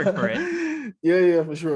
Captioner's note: laughs